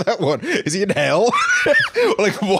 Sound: laughs

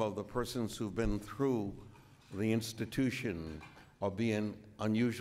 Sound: none

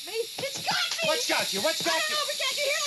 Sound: air hissing

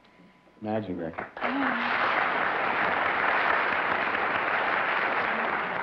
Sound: applause

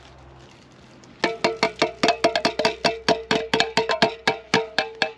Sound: cans clinking

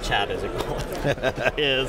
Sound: laughter

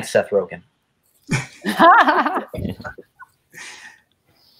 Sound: guests laughs

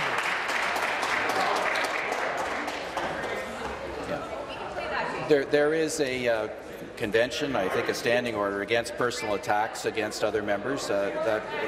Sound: applause

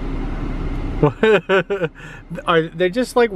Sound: laughing

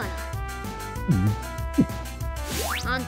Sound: gulp

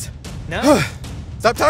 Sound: gasps

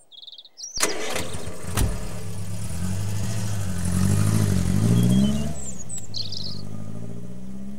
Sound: engine revs; birds chirping

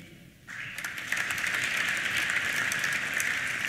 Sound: applause

